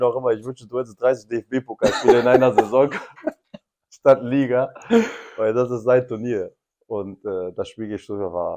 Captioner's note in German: gelächter